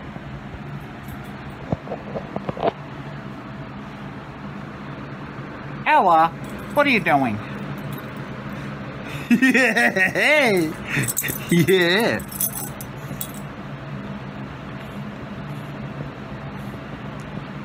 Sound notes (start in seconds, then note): 9.1 laughing